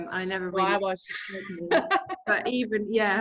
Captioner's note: laughing